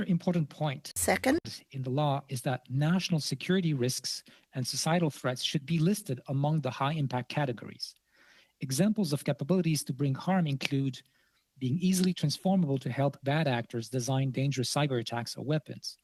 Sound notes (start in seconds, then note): 2.1 speaking French